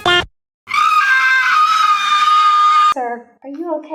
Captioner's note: high pitched screaming